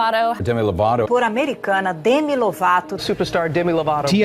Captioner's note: woman speaking Spanish